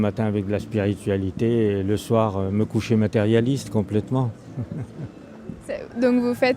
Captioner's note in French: rires